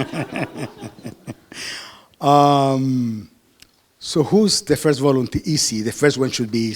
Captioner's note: laughter